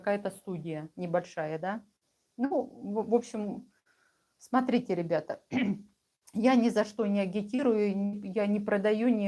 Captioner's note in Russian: откашливается